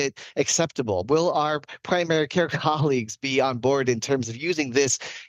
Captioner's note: laughs